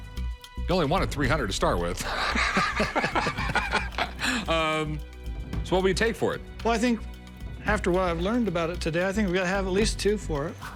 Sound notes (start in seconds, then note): 2.0 laughter